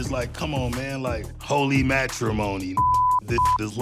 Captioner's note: beep